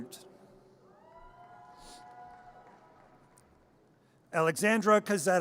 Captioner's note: audience cheers